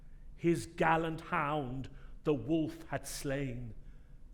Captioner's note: none